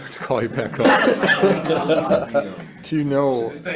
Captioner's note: senators laughs